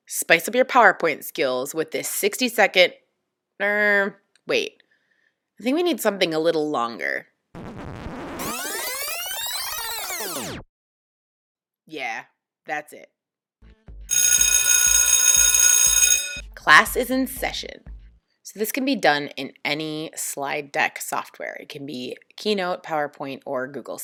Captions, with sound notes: Spice up your PowerPoint skills with this 60 second...err... wait...I think we need something a little longer. [record scratch and rewind sound] Yeah, that's it. [bell ringing] Class is in session. So this can be done in any slide deck software - it can be Keynote, PowerPoint, or Google